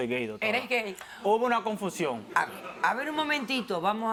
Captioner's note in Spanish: Risas